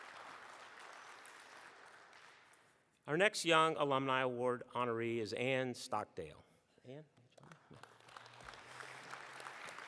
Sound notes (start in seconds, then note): 0.0 applause